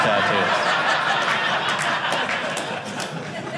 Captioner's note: audience laughing